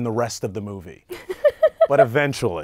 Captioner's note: laughing